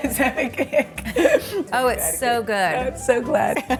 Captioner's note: laughs